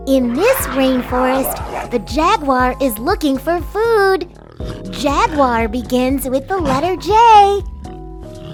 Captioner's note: animal sounds in background